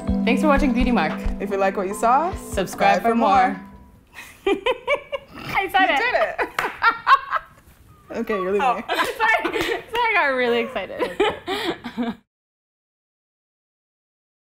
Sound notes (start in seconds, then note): 4.1 laughing; 6.9 laughing